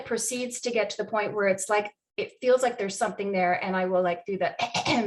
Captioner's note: clears throat